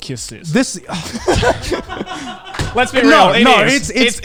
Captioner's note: everyone laughs